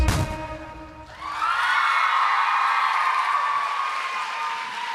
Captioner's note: applause